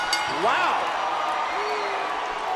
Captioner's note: bell ringing